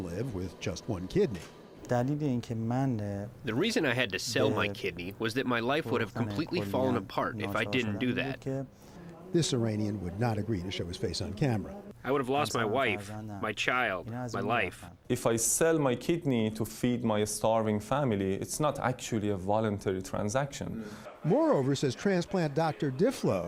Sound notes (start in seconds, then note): 2.9 through translator; 11.9 through translator